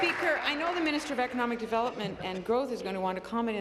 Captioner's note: applause